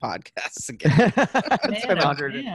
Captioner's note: laughs